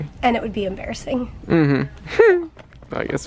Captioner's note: chuckles